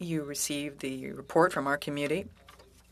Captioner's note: speaking french